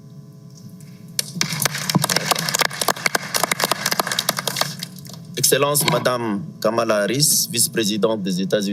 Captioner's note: applause